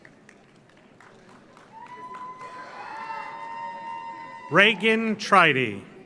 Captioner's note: audience applauds; audience cheers